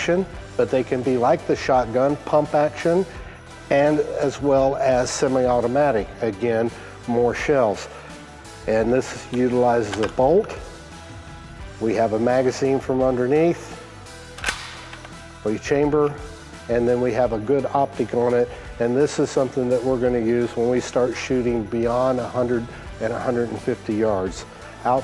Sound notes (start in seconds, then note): 14.3 magazine clicks